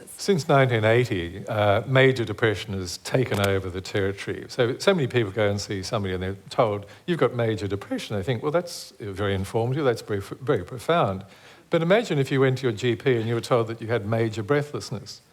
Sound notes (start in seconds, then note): none